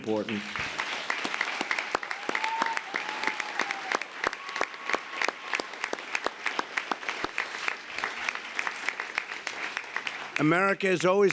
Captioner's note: applause